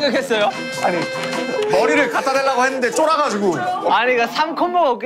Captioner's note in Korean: 오열